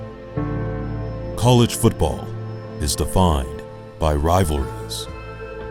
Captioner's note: voiceover